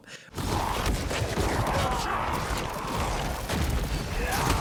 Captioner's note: Venom snarling